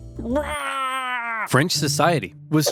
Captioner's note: Simeon screams